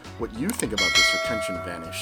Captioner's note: bell dinging